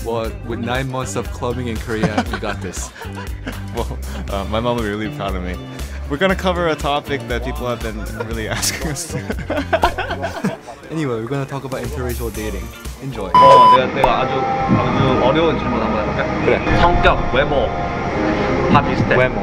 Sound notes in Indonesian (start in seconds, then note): 2.0 tertawa; 8.1 Menertawai ad-lib; 8.1 tertawa